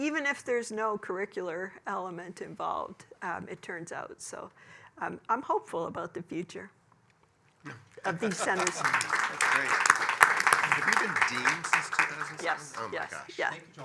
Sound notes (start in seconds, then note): 8.0 applause